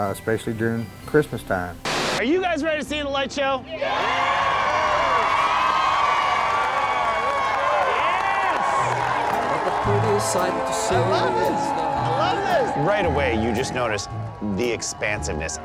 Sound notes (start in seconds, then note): 1.9 TV screen buzzes; 3.8 crowd cheering